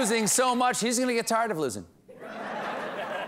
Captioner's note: laughter